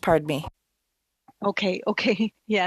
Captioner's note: speaking French